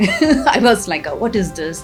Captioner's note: laughs